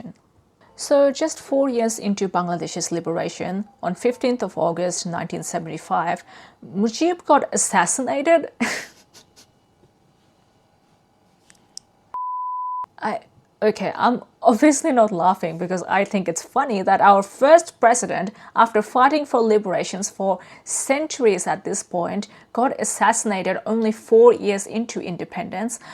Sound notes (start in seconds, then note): 8.6 laughs; 9.0 beep